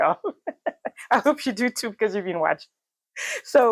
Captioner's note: laughs; laughs